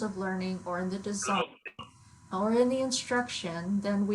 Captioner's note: overlapping chattering